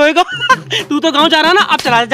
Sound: laughs

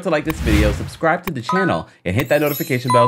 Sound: ringing

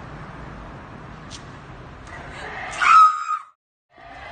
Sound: screams

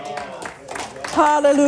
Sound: audience applauding

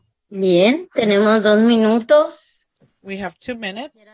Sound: speaking Spanish

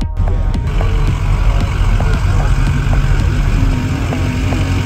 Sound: diesel engines

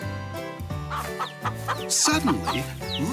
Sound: hen clucking

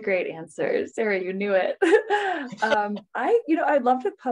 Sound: chuckles

